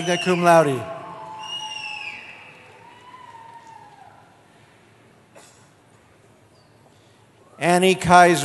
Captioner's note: cheering